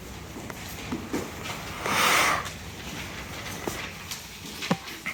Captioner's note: shuffling papers